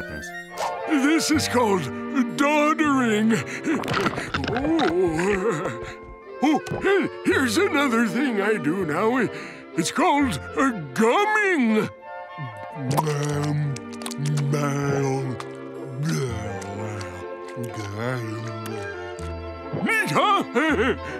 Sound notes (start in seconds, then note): 3.6 groaning; 20.4 chuckles